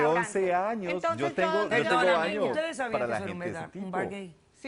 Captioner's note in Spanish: Hablan al unísono